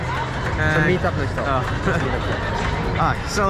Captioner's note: people chattering